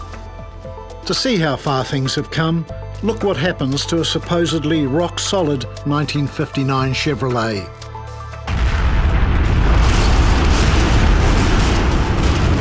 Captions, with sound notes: To see how far things have come, look what happens to a supposedly rock-solid 1959 Chevrolet. (loud crunching)